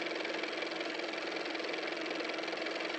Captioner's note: car motor